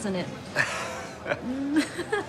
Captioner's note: laughs